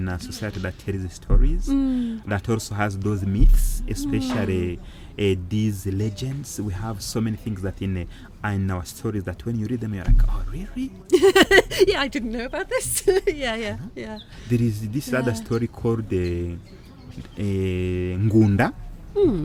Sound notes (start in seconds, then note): 11.1 laughing